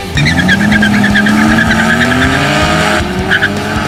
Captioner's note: squealing tires